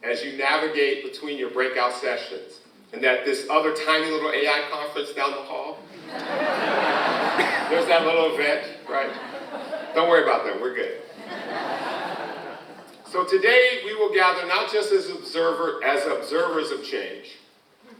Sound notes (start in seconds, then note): 5.9 audience laughs